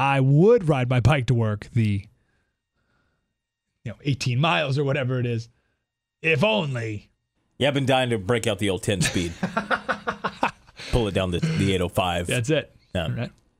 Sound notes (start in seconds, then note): 9.0 laugh